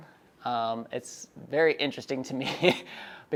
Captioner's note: laughs